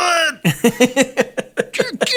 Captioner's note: chuckle